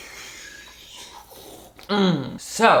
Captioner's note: slurps; grunts